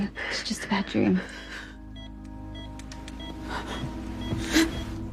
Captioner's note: beeping accelerates